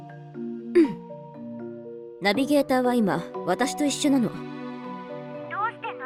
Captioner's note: ahem